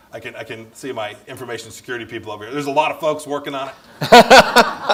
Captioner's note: laughter